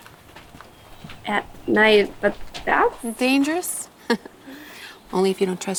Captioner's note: chuckles